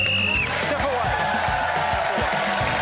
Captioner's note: blows whistle